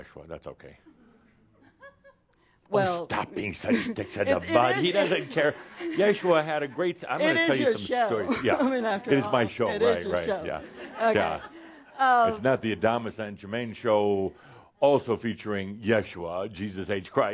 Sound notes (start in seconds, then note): 3.6 laughter; 3.6 someone giggles